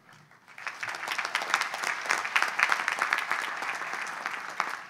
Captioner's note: audience applauds